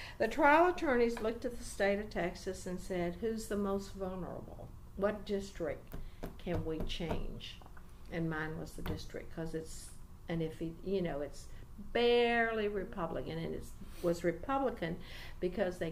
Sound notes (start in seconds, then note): 6.2 resumes tapping table